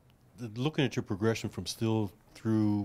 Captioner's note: voiceover